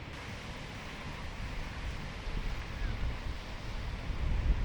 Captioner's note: water flowing